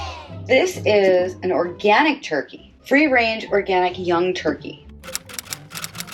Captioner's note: typing noises